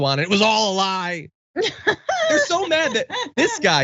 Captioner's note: laugh